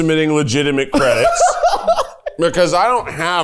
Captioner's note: laughs